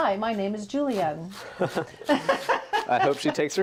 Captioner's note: laughs